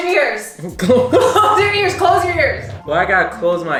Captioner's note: laughs